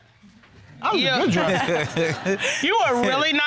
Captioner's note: chuckling